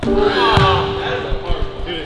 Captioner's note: group groans